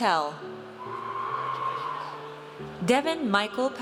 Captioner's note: audience cheers